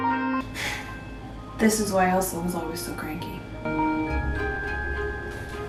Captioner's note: sharp sigh